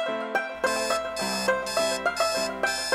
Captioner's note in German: Weckergeräusch